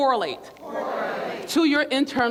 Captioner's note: crowd